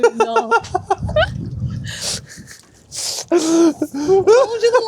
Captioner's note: laughing